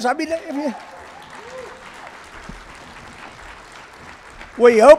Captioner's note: cheering and Applause